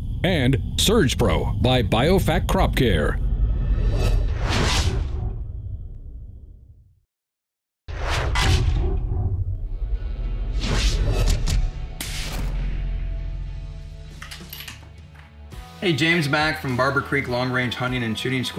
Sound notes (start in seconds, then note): 7.9 electronica whooshing; 14.0 gun cocking